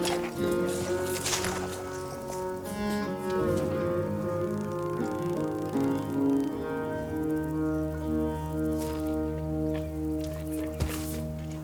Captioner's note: snorts